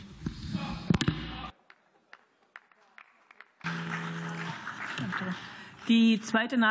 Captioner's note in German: Gelächter und Beifall